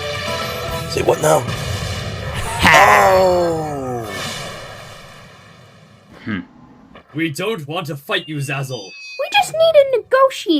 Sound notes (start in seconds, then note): 2.3 both groan